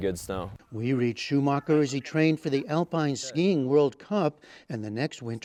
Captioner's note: voice-over